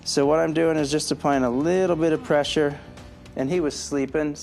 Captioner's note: sighs